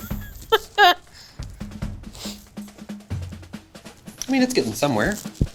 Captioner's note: laughs